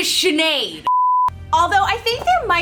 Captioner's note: beep